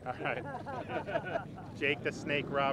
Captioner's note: crowd laughs